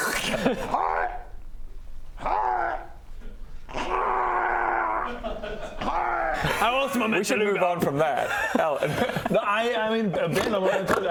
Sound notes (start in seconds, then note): 5.7 hrgh